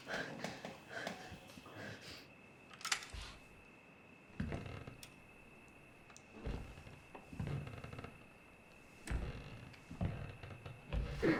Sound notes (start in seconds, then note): 0.0 Claire panting; 2.8 gun clicks; 6.3 floorboards creak